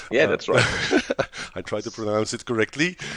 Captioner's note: laughs